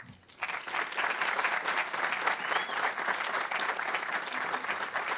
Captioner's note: audience applauding